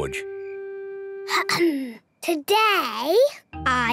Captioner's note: clears throat